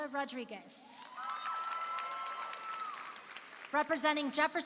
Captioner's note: applause and cheering